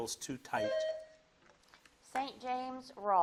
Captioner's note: bell dings